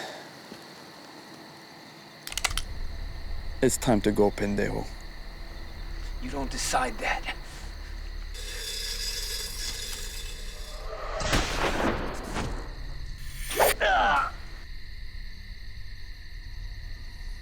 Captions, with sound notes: >>[gun cocks] click! >>IT'S TIME TO GO, PENDEJO. >>YOU DON'T DECIDE THAT. >>[gunshot] bang! >>UGH!